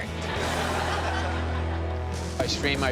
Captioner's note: laughter